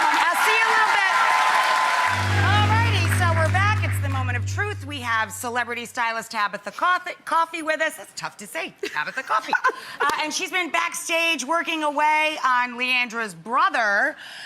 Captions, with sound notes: I'll see you in a little bit. (applause) Alrighty, so we're back. It's the moment of truth. We have celebrity stylist Tabatha Coffey with us. It's tough to say. Coffey. (laughs) And she's been backstage working away on Leandra's brother.